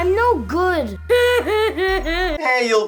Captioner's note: sobbing